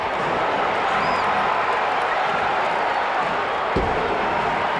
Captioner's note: audience chattering